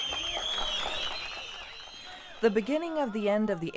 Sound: crowd cheering

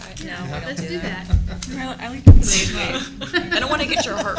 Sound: chuckling

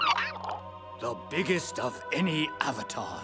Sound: chirping

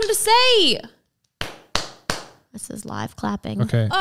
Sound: clapping sound

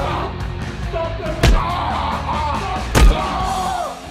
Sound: smack

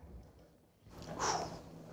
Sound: exhales

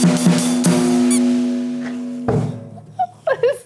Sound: drum clacks; toy squeaks; giggles

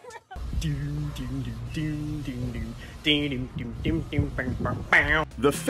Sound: people laughing; person humming

